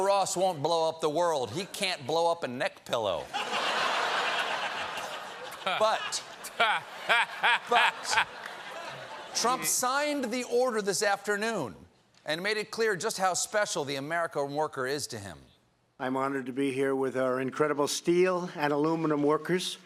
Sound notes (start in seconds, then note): 3.3 laughter